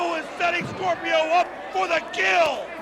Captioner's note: crowd cheering